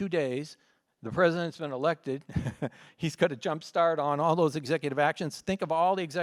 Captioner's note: laughs